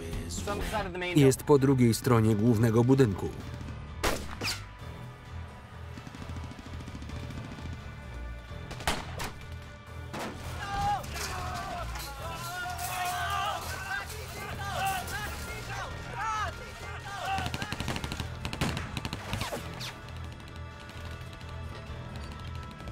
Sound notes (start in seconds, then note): 4.0 gunshot; 8.6 gunfire; 10.6 screaming; 13.2 shouting in Spanish; 17.0 rapid gunfire